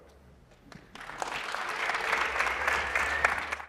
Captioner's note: applause